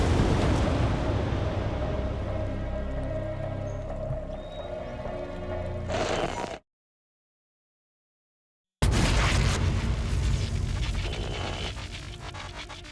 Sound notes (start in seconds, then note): 4.2 bird chirps; 6.1 crackling; 11.9 buzzing and crackling